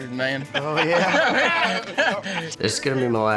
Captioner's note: everybody laughs